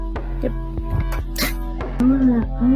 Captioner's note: scoffs